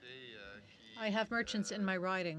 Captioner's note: speaking French